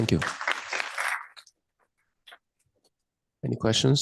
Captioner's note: applause